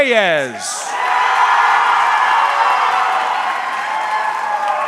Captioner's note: audience cheering